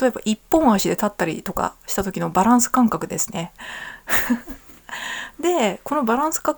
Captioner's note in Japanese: 笑い